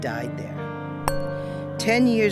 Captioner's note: bell Rings